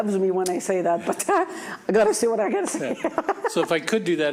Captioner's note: laughs